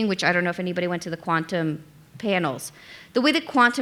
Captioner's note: none